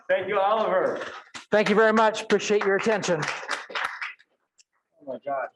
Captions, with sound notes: Thank you, Oliver. Thank you very much, appreciate your attention. (audience clapping) Oh my God